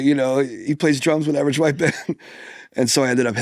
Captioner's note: laughs